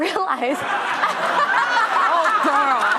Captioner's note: laughing